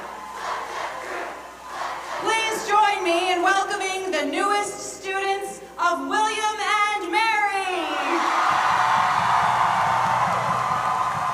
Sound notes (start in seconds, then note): 0.8 chanting; 7.7 cheering